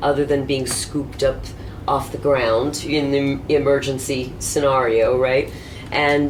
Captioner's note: none